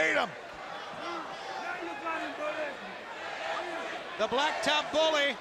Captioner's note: crowd chatter